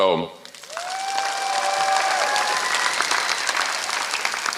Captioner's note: applause